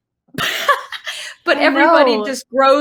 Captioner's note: laughing